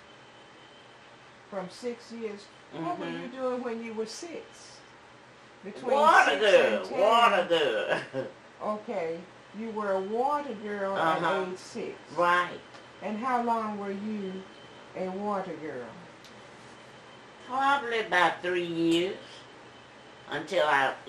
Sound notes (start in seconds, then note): 7.3 laughs